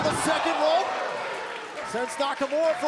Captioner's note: crowd cheering